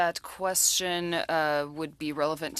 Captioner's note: speaking French